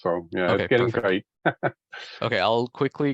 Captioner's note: laughs